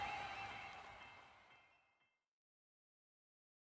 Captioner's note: cheers